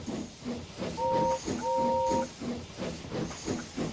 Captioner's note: Gordon whistles